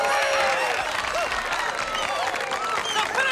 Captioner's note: cheers and applause